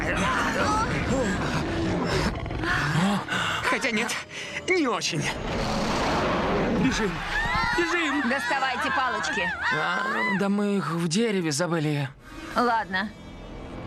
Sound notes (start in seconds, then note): 1.1 all gasp; 5.4 roars